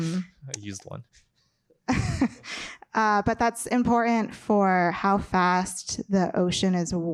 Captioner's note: laughs